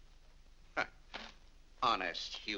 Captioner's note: scoffs